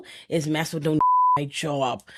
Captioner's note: beep